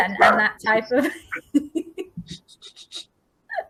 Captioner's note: laughs